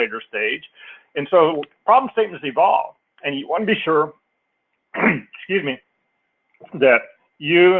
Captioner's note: cough